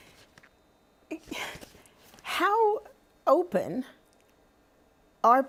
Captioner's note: sighs